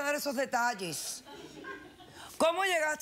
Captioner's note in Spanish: risas